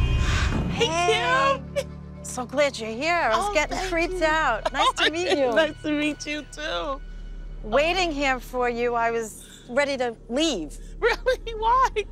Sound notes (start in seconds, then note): 3.4 laughs